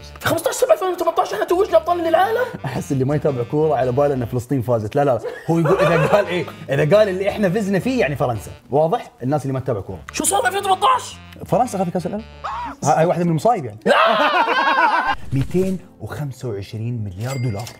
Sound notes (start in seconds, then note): 5.2 laughs